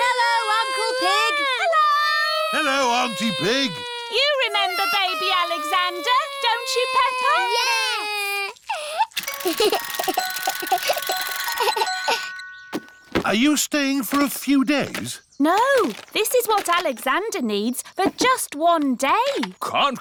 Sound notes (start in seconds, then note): 9.2 alexander giggles